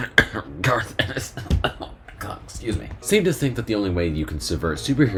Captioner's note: coughing